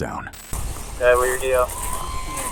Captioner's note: radio chatter